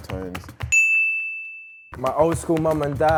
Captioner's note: bell rings